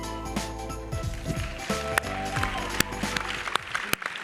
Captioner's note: audience clapping